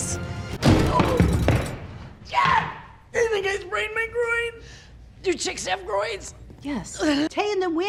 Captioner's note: groan of pain